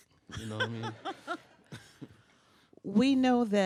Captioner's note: bursts out laughing